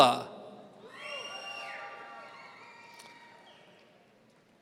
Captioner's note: audience cheering